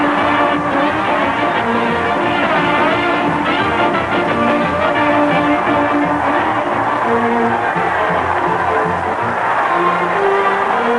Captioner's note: cheering